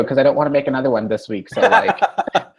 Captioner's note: laughs